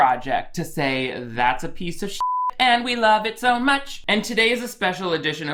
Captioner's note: beep